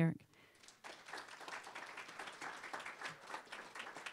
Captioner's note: applause